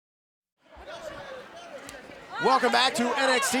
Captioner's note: crowd chattering